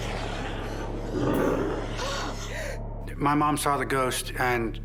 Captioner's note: gasping